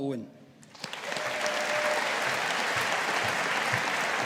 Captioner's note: audience applauding